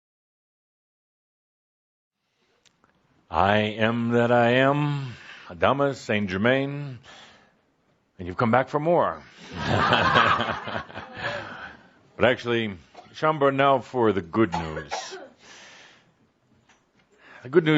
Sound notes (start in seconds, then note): 9.5 laughter